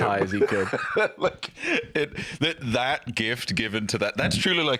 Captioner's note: laughs